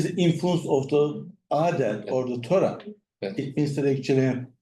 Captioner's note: speaks in foreign language